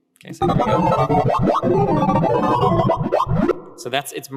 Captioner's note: distorted electronic beeping